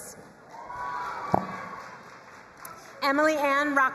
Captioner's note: crowd cheering and applauding